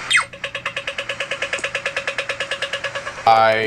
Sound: rapid clicking

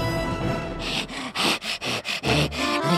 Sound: panting

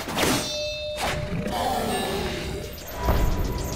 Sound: growling

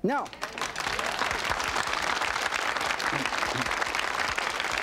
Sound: audience applauds

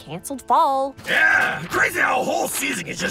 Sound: pages rustling

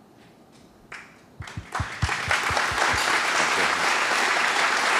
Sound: applause

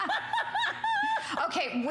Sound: laughter

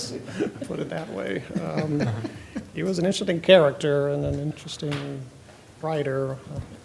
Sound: laughter

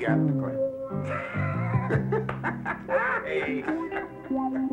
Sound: laughing

